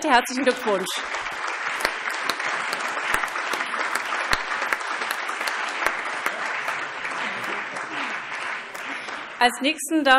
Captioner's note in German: Allgemeiner Beifall